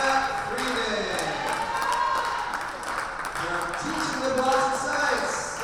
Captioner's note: spectators cheer and applaud